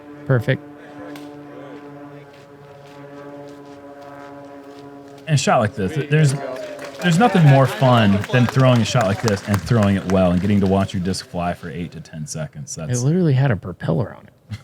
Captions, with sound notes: -Perfect. [applause] -There's nothing more fun than throwing a shot like this and throwing it well, and getting to watch your disc fly for 8 to 10 seconds. -It literally had a propeller on it.